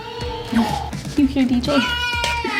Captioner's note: baby talking